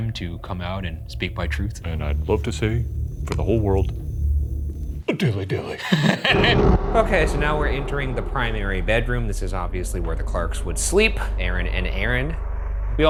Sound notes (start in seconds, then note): 5.7 laughs